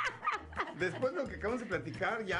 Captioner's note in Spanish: risas